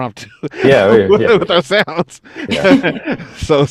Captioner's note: all laughing